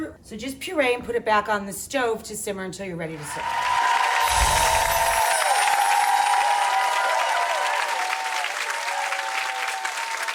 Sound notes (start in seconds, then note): 3.1 people cheering; 4.2 chimes tinkling